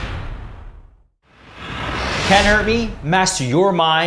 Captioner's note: whooshing